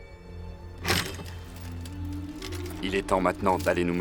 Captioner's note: sword clangs